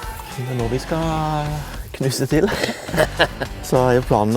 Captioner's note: giggle